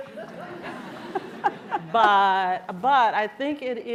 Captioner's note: laughter